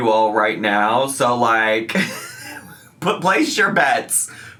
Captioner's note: laughs